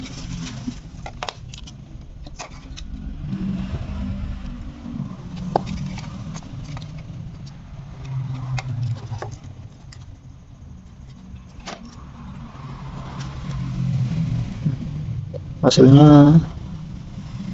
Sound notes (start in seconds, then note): 0.3 car sound; 8.8 motorcycle sound